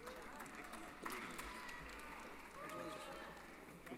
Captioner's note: applause